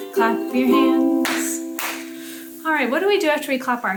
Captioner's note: clapping